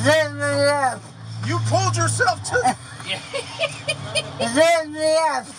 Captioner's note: laugh